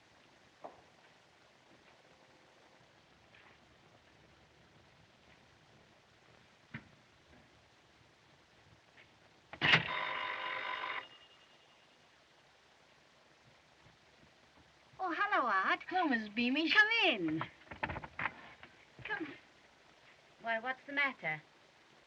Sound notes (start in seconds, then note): 9.8 doorbell Rings